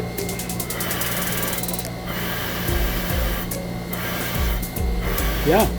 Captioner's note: steam hissing; playful music continues